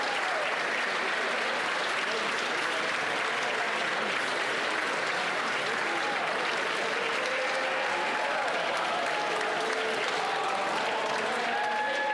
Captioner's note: applause